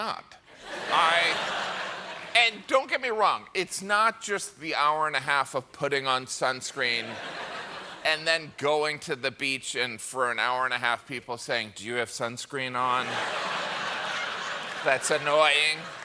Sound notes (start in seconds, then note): 0.6 laughter